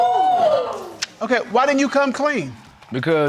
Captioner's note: crowd exclaiming